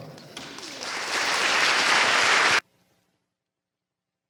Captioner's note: applause